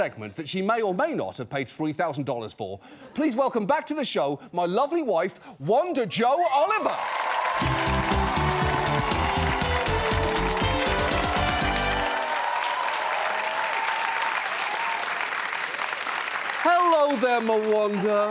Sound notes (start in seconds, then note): 6.8 cheering; 7.4 uplifting music plays; 12.2 crowd cheering